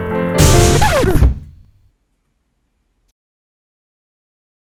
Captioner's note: record scratches